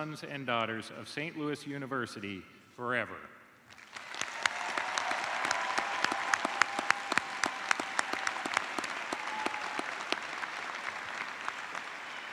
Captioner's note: cheers and applause